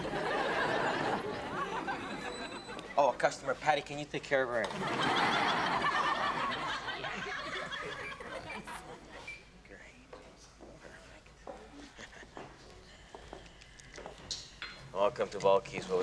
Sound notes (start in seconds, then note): 0.0 audience laughs; 4.6 audience laughs; 11.9 Ben chuckles